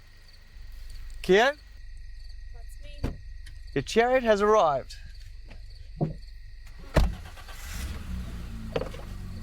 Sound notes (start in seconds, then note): 6.7 engine starts; 6.8 door slams shut